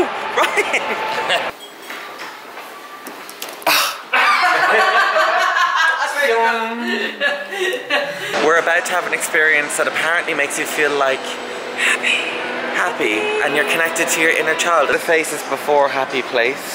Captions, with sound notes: (laughs) (Mum laughs) - We're about to have an experience that apparently makes you feel like-- - Happy. - Happy! And you're connected to your inner child. - The faces before Happy Place.